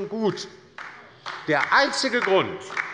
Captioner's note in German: Beifall bei der LINKEN